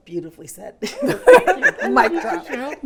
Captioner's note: business leaders laugh